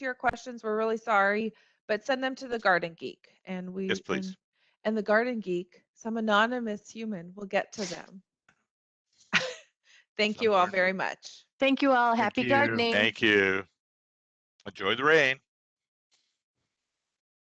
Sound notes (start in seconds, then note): 9.0 laughs